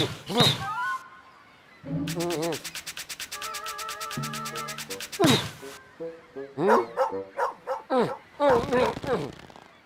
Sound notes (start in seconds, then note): 7.3 barking